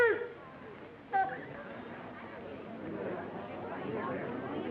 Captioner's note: chatter